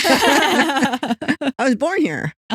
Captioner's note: both Laughing